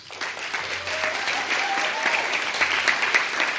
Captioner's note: cheering